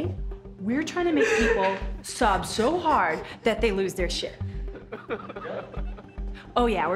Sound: sobbing

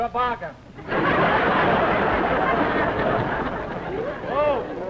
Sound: laughter

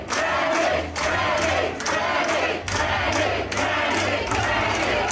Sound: crowd

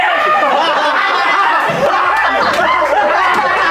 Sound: laughs

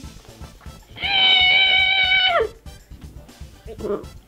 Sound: squeals

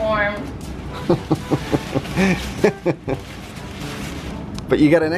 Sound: laughing

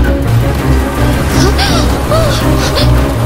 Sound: gasps

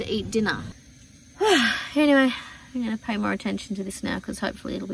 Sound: heavy sigh

